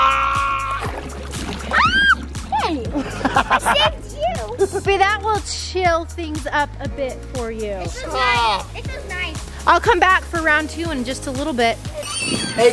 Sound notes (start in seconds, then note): 1.7 screams; 2.5 laughs